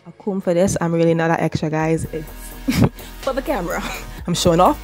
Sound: laughs

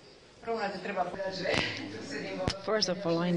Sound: non-english

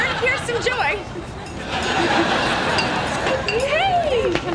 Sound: audience laughing

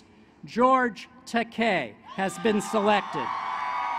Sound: applause

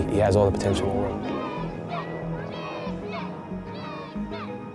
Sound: crowd cheering

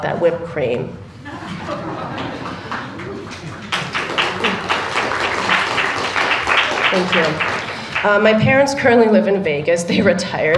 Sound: laughter and Applause

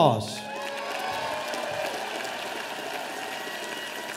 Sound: audience applauding

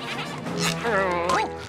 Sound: groaning

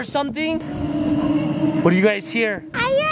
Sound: dinosaur roaring

